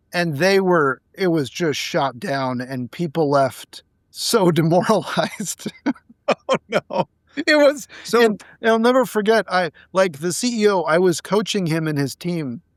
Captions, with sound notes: And they were, it was just shot down and people left so demoralized. (laughing) (laughing) -Oh no. -It was... And I'll never forget, like the CEO, I was coaching him and his team,